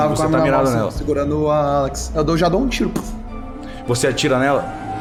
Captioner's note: pow